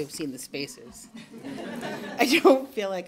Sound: laughter

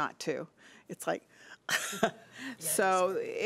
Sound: laughing

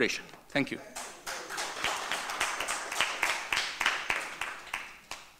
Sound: audience clapping

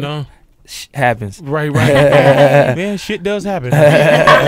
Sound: forced laugh

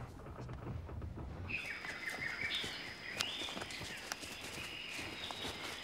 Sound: birds chirping

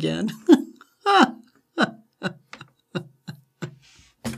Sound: Katie laughs

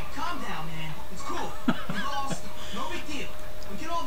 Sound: laughing

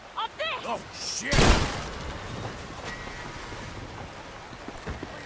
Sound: gun firing

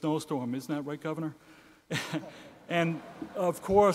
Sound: laughs

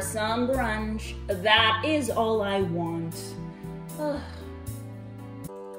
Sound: sighs

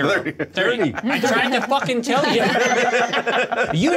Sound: co-hosts laughing

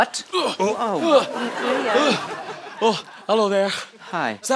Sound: sounds of struggle

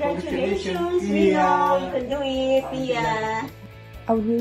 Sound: speaking in foreign language

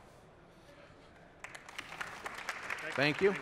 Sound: applause

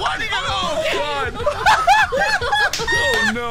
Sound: people laughing

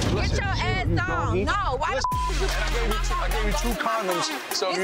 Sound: beep

